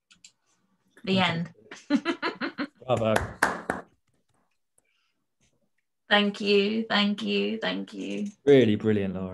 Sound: panelists clap

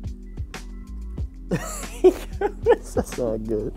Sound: laughs

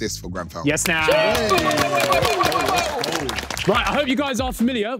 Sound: everyone clapping

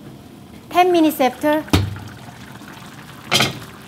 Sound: simmers rapidly

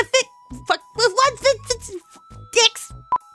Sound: profuse stuttering

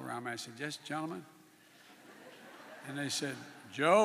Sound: laughter

